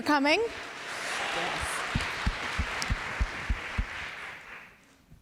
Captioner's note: applause